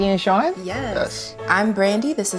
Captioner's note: in Unison